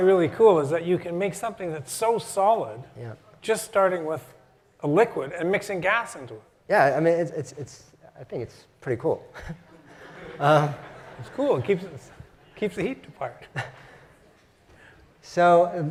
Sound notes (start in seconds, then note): 9.3 laugh